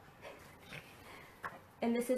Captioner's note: laughs